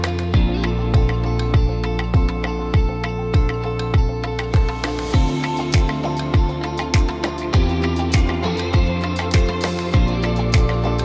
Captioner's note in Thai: ปรบมือ